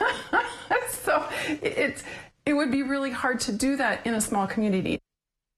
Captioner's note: laugh